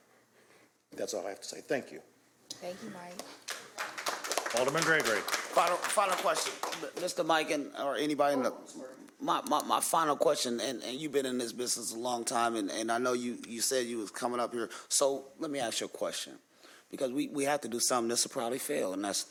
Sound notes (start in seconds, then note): 7.2 applause